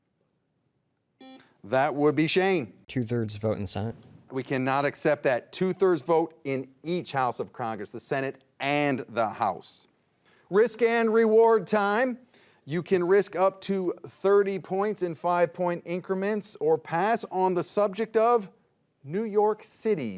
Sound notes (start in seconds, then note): 1.2 buzzer dings